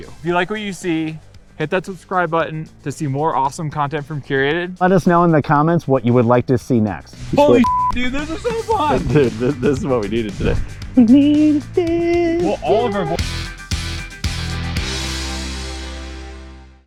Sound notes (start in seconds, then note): 7.5 beeping; 13.4 rock music